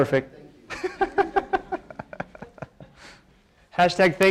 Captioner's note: laughter